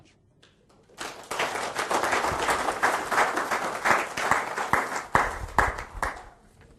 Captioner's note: audience applauding